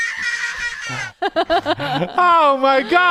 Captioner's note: laughing